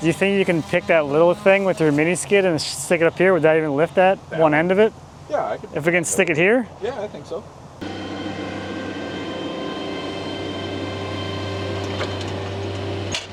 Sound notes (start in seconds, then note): 7.8 machinery humming